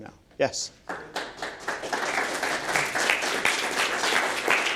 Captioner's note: applause